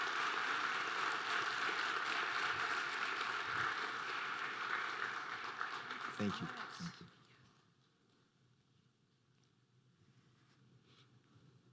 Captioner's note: applause